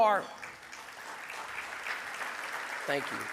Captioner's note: audience applause